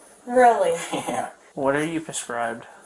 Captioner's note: Boyfriend chuckles